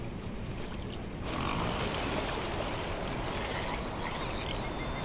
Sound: pigs grunting

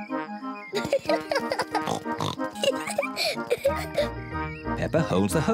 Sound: giggles excitedly

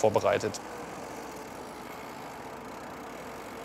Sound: whirring of the bicycle chain

